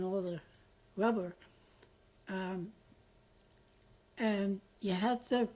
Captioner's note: pauses for 3 seconds